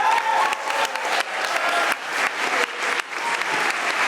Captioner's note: audience applauding